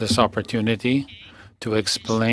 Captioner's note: speaking French